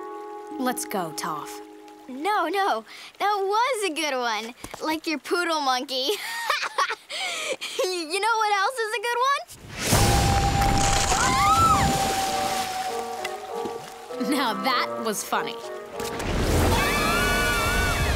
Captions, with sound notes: Let's go, Toph. No, no. That was a good one. Like your poodle monkey. [laughing] You know what else is a good one? [squealing] Now, that was funny. [screaming]